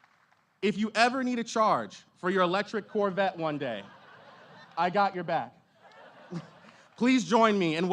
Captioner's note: applause